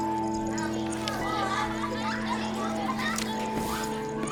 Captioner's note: indistinct conversation and children's laughter